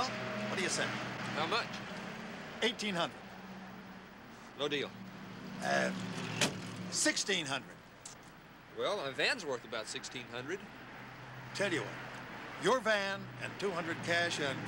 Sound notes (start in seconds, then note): none